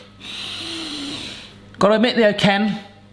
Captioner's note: nose inhaling